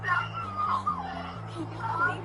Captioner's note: crying on phone